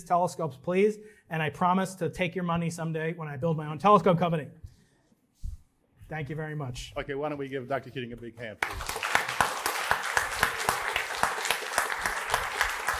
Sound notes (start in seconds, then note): 8.6 applause